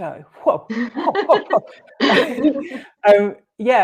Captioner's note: laughter